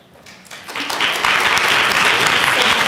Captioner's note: applause